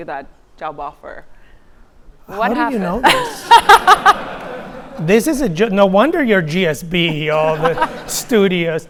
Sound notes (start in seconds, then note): 3.0 laughing; 3.0 audience laughing